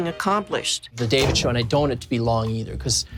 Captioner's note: door thumps